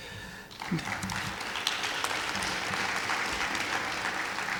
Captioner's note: clapping